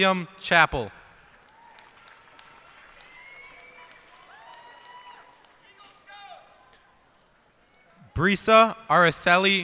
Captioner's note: cheers and applause